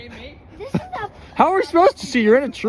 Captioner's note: mumbling useless things